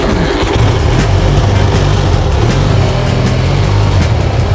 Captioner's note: engine starts